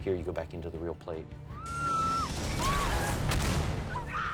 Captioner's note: screaming